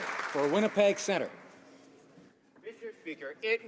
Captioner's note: some Applause